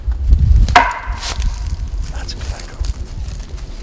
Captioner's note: bat whacking